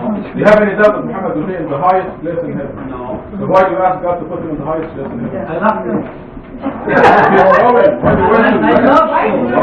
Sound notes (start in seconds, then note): 6.6 laughter